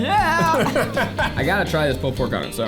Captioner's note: laughing